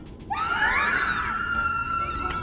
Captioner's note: squeal